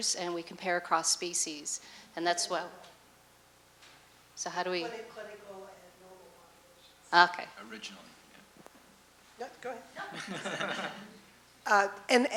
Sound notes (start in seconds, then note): 3.1 voiceover; 3.9 speaks fast; 5.3 voiceover; 9.6 voiceover; 10.0 laughter